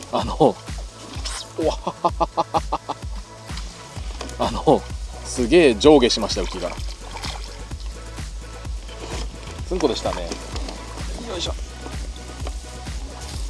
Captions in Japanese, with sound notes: [笑い] あの、凄まじくウキが上下しました 「ツンコ」でしたね